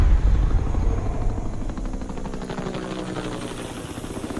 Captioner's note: helicopters flying overhead